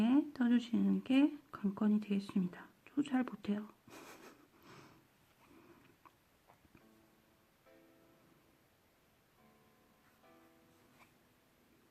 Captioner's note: giggles